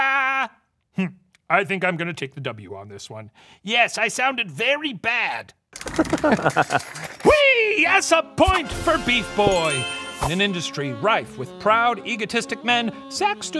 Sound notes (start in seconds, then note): 5.8 curtain rattles; 5.8 laugh